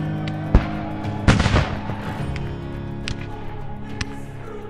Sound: guns firing; upbeat music

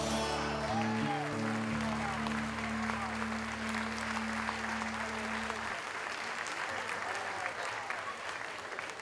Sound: cheers and applause

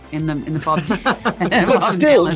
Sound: laughter

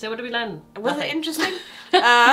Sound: both laughing

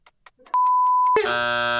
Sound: beep; buzzer beeping

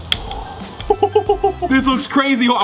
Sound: chuckles

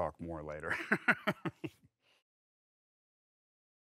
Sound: laughing

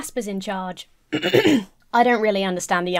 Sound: clearing throat

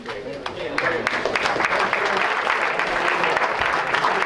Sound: applause

